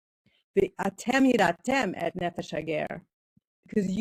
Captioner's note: speaking in foreign language